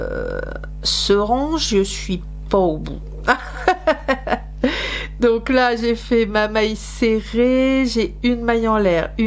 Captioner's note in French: rires